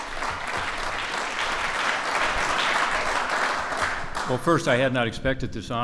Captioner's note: applause